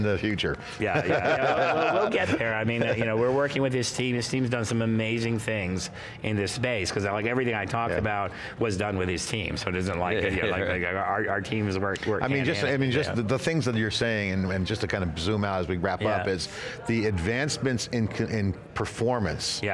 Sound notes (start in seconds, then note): 0.8 laughing